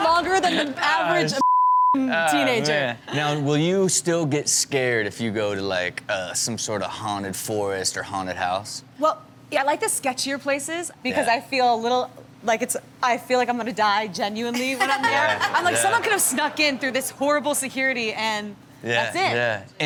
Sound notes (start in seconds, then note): 0.0 hosts laugh; 1.4 beep; 14.8 co-host and audience laughs